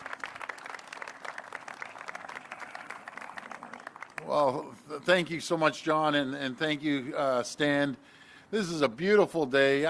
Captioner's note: applause